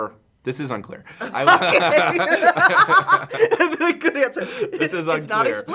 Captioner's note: laughs